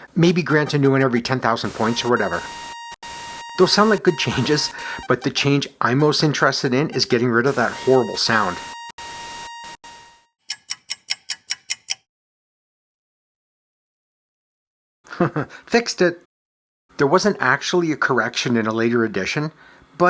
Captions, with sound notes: Maybe grant a new one every 10,000 points or whatever, Those sound like good changes, but the change I’m most interested in is getting rid of that horrible sound. [clock ticking] [chuckles] Fixed it! There wasn’t actually a correction in a later edition,